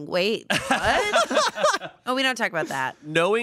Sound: everyone laughs

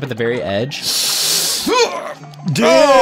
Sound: both wincing

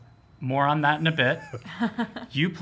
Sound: laughs

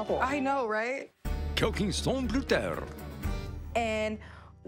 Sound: narrator speaking french

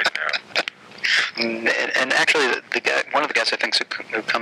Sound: laughing

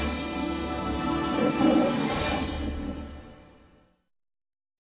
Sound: orchestral fanfare plays; Leo the Lion roaring as fanfare finishes

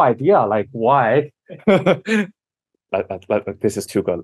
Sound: laughs

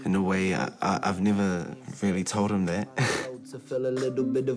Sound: laughs

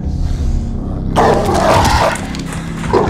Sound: dog barking

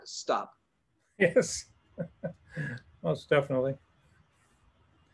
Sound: laughs

